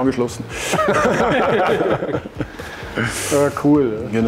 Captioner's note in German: Gelächter